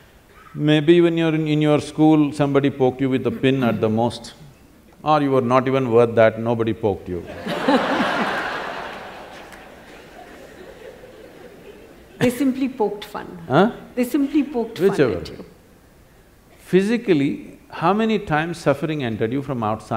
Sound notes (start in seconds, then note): 7.3 laughter